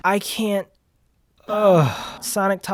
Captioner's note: pained groan